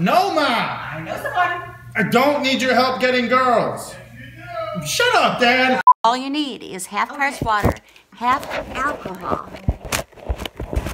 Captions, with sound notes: [Mom yells from off camera] I know someone. I don't need your help getting girls. [Dad yells from off camera] Yes, you do! Shut up, Dad! All you need is half part water, half alcohol...